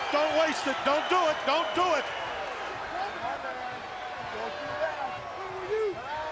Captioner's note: crowd clamoring